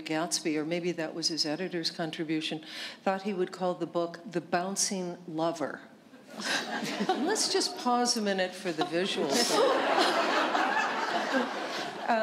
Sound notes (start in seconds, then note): 6.3 chuckle; 10.4 laughter